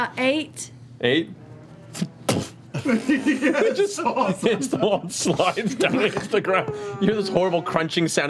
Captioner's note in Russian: смеётся